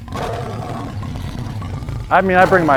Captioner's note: tiger roaring